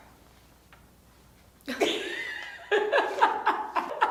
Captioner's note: laughter